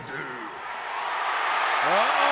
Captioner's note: audience cheers